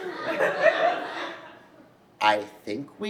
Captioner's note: audience laughs